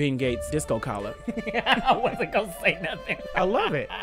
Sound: laughing

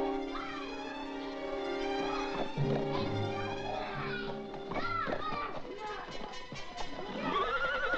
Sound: suspenseful music; children arguing; horse whinnies

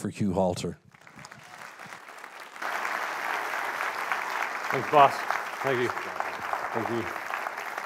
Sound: applause

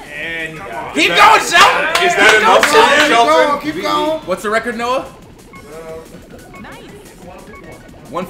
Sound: applause

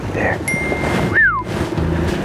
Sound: bell ringing; upbeat music continues; whistling; engine droning

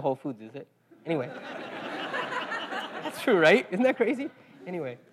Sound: laugh

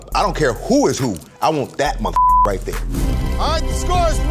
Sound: beep

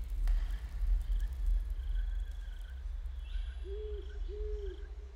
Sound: insects chirping

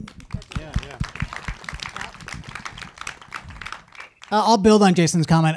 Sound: audience applauding

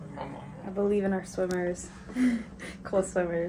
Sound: chuckles

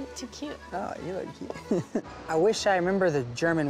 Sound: chuckling

